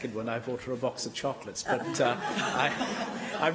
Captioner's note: laughter